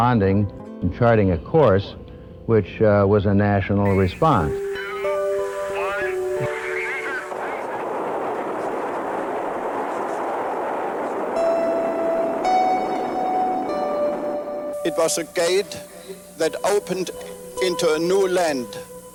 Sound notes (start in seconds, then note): 6.9 static; 8.0 rocket engines roar